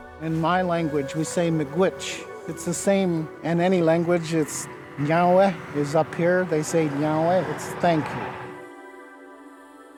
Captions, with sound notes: - In my language, we say [speaking in foreign language]. It's the same in any language, is [speaking in foreign language] is up here. They say [speaking in foreign language], it's thank you.